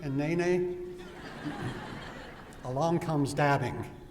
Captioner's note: laughter